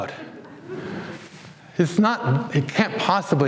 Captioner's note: audience laughs